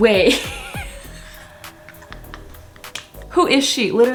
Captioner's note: dies of laughter